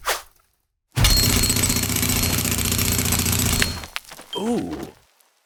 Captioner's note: jackhammer drilling